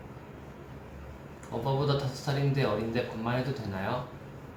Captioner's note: Korean